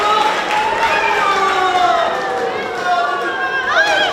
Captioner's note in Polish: Aplauz